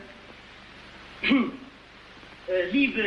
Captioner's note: ahem